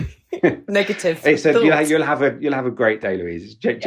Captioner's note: laughs